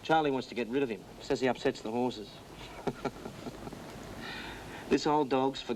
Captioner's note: chuckles